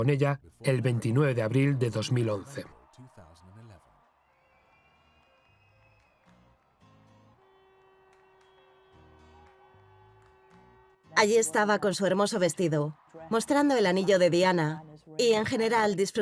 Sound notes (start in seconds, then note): 3.7 crowd cheering; 6.6 upbeat music